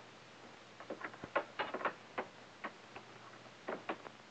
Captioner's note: lock clicks